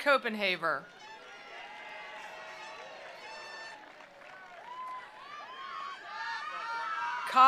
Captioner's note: attendees cheering; attendees applauding